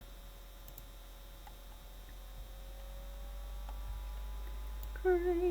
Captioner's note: laptop whirring